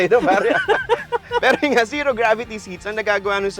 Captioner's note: laughs